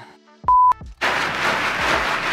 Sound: beep; plastic crinkling

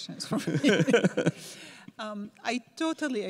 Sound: laugh

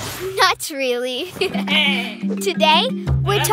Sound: chuckling

